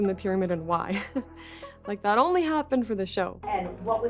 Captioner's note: chuckles